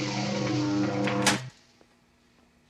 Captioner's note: buzzing stops